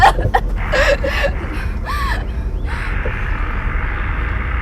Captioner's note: dying Person Coughing; heavy breathing